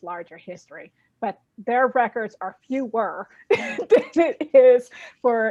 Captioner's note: laughing